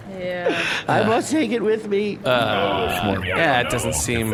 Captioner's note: tearful